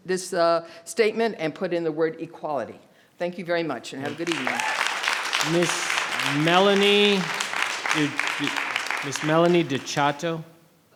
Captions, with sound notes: this statement and put in the word equality. Thank you very much and have a good evening. (Audience applauds) - Ms. Melanie. Ms. Melanie Dechoteau.